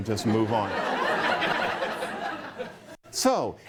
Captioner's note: laughter